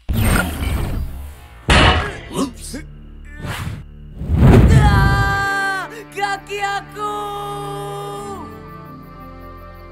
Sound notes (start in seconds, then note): 1.7 loud thunk; 4.0 Amato screams in pain